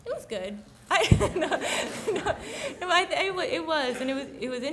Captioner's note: laughs